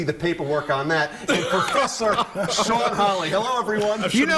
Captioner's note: laughter